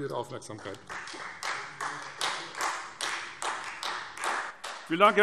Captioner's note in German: Beifall Freie Demokraten